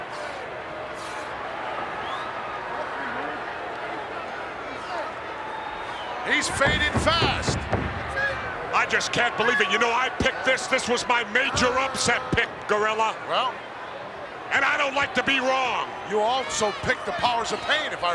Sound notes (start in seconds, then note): 2.5 wrestlers vocalizing